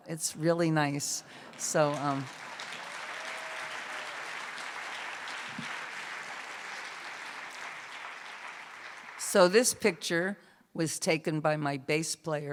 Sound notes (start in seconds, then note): 1.1 cheers and applause